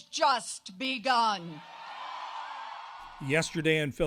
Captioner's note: cheering and applause